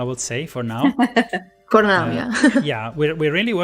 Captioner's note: laughs